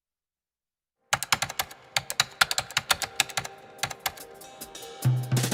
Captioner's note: keyboard clattering